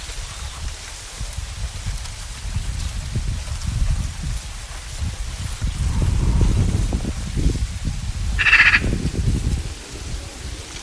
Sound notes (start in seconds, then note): 8.4 bird caws